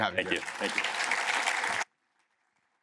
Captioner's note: applause